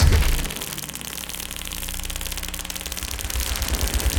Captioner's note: loud buzzing